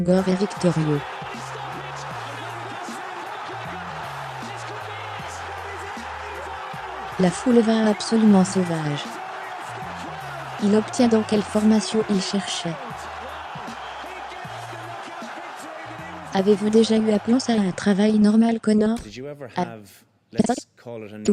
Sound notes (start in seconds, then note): 0.3 crowd cheering; 6.3 crowd cheering